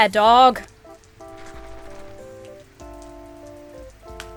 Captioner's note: drink rattles